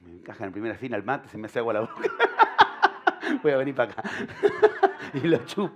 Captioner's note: laughter